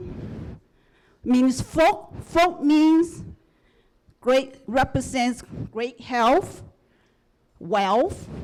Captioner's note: non-english speech